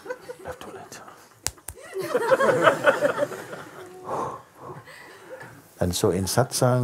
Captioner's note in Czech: smích